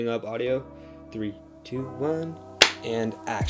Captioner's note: claps